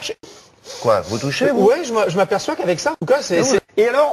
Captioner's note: breathes in